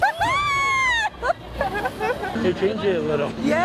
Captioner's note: laughs